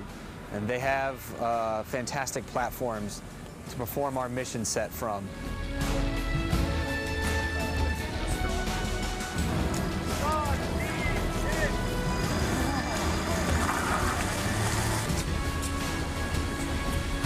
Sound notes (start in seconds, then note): 5.2 soft inspirational music; 8.0 chattering; 12.2 engine roaring